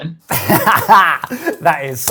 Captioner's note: laughs